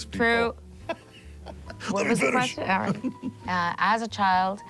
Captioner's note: laughing